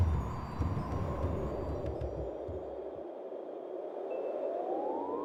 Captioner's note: wind whistling